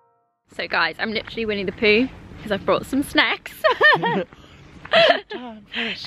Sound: laughing

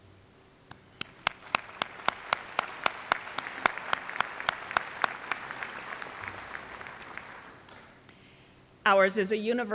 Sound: applause

